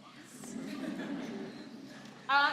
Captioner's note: laughter